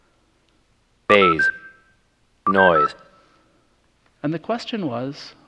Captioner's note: playing recording